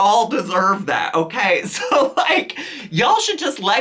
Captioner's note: chuckles